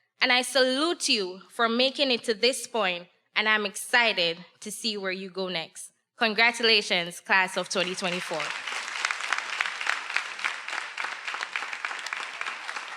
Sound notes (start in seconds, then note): 7.8 everyone applauding